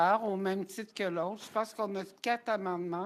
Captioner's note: speaking french